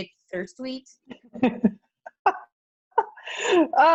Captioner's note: laughs